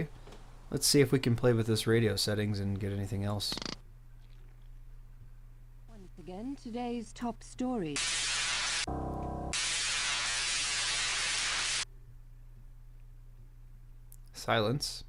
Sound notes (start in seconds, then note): 4.6 radio; 10.4 static